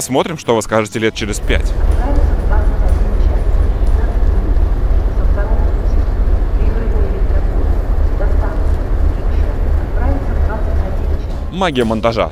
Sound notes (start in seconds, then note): 2.4 commuter Train Departure Announcement